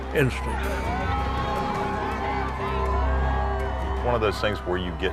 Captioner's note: cheering